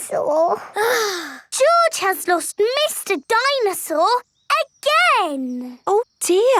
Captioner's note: sighs